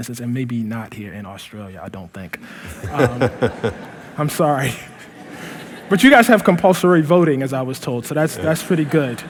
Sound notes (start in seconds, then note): 2.6 laughter; 4.4 laughing